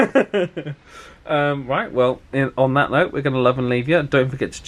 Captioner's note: laughs